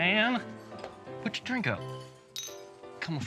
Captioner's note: clink glasses